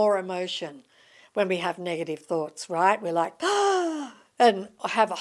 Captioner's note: gasp